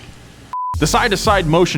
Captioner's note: screen beeps